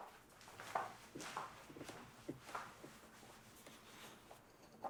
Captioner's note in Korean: 문 열고 다가오는 발소리; 세진 발소리